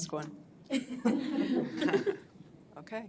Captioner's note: laughing